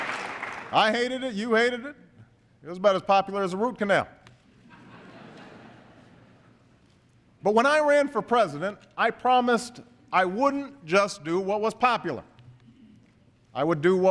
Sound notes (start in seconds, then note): 4.5 laughter